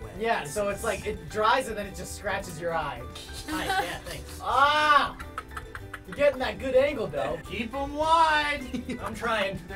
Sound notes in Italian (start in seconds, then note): 3.0 sghignazzando; 4.9 ridacchiando